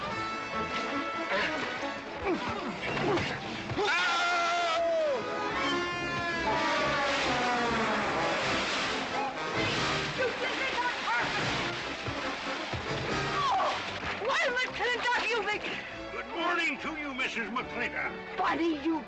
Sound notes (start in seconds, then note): 3.8 screaming